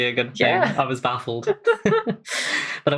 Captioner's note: laughing